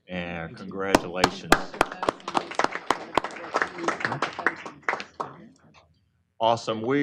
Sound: applause

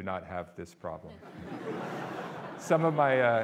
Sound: audience laughing

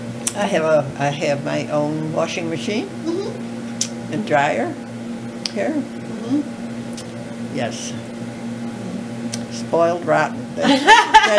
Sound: laughter

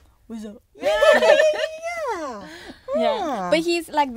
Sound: girls laughing

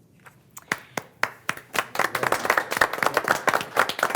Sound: group applauding

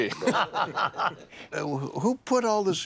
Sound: laughter

